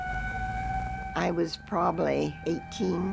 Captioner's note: siren blaring